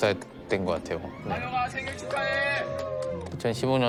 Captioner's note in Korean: 환호성